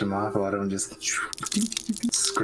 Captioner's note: shhhhhppp